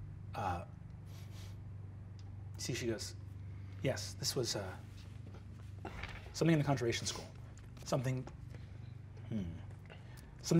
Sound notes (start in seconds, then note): 1.1 sniffing